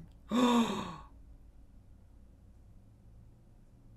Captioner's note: gasps